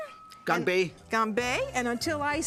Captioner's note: speaking Chinese